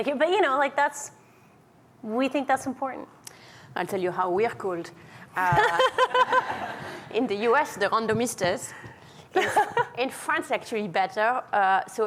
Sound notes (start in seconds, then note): 5.5 laughing